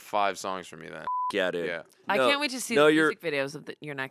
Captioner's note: beep